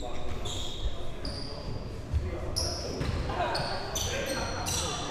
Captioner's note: shoes squeaking